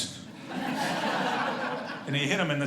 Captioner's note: audience laughing